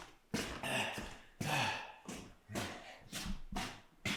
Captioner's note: Jacob panting